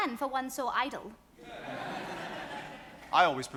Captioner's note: audience applauds